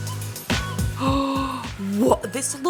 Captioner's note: upbeat music; gasps